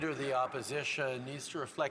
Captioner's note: some Applause